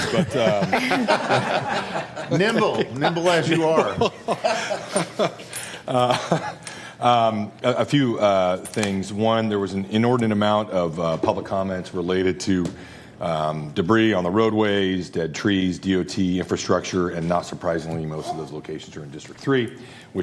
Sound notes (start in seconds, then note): 3.4 laughter